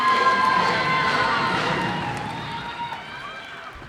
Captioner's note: cheers and applause